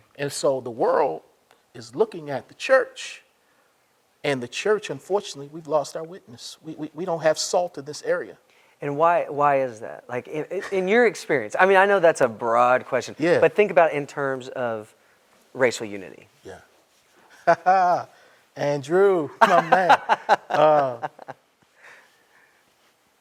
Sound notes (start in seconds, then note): 19.4 laughs; 19.4 chuckles